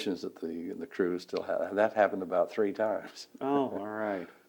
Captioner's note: laughs